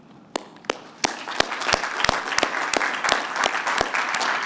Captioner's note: applause